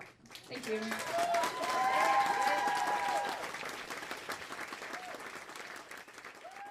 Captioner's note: crowd erupts into applause and cheers